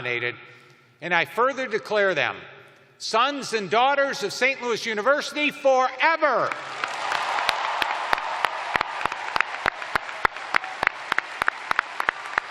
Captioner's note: cheers and applause